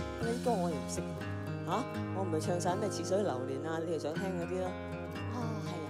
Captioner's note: laughs